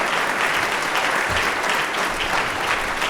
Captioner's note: applause